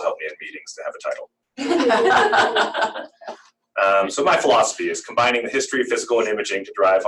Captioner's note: laughter